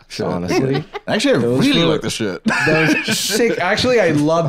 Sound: laughs

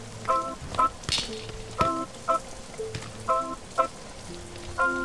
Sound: fence rattles

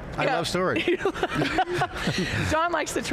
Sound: laughs

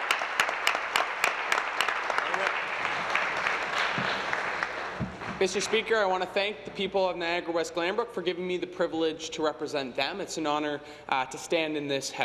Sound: applause

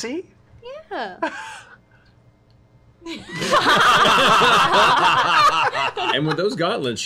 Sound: laughter

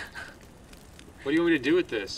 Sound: woman laughs

